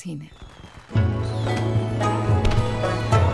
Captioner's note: Firecrackers crackling